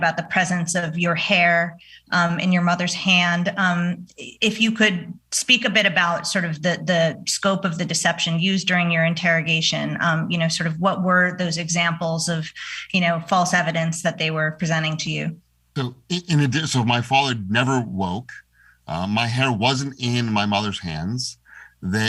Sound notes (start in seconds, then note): none